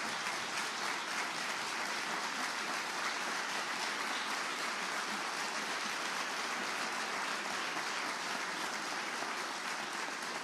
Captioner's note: applause